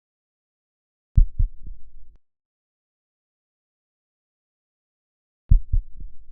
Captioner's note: heartbeat thumping slowly